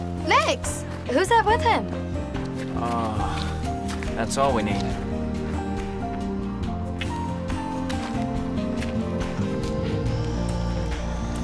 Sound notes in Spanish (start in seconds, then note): 2.7 suspira